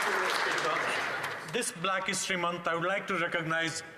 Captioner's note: some Applause